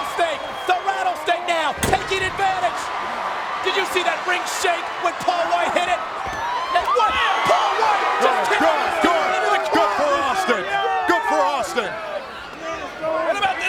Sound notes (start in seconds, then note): 6.7 people chattering indistinctly